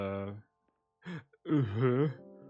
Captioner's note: gasp